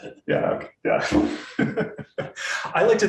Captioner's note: laughs